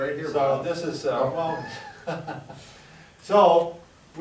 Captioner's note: chuckles